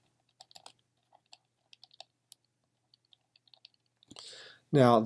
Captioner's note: typing